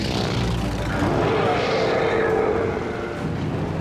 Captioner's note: loud growl